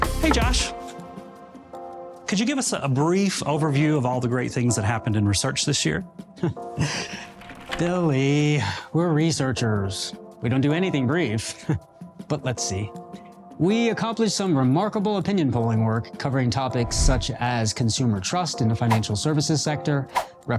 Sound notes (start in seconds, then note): 0.0 upbeat music continues; 6.8 laughs softly